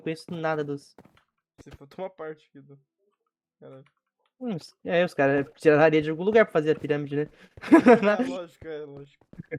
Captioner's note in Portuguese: risos